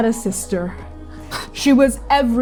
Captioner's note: breathing heavily